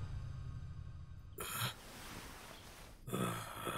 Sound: grunts

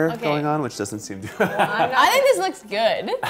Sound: laughs

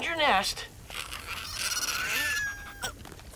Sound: squeaking

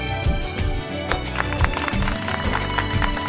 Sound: applause

